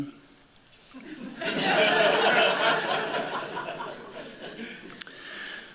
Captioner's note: laughter